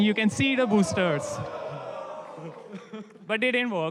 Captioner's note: cheering